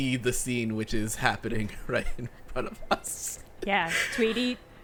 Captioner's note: chuckling